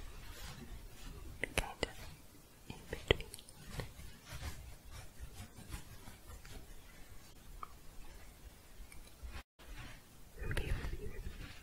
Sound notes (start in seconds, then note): 0.0 shuffling; 3.9 scratching